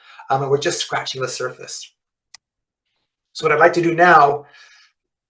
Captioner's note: mouse clicks